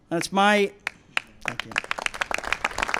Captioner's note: applause